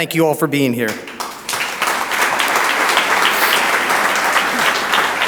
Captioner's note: audience applauds